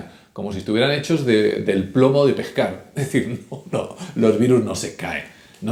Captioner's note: laughing